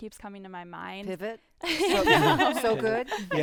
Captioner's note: group laughing